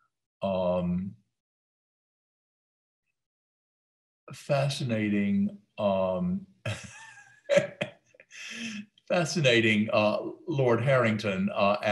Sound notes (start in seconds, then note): 7.4 laughs